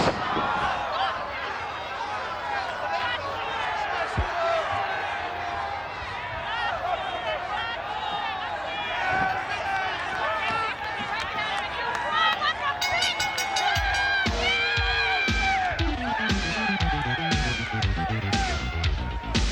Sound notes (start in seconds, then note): 12.8 bell rings; 15.9 upbeat music